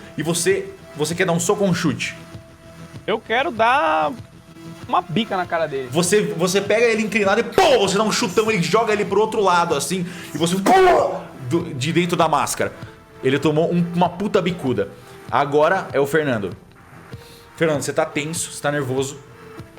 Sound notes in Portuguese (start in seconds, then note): 7.5 poow; 10.8 uggh